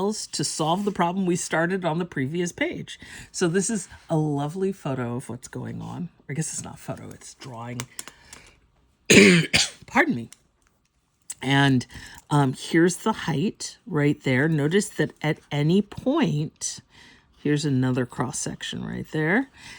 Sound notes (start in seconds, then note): 9.1 coughs